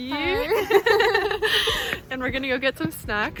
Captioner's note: both laugh